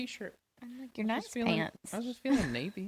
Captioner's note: laughs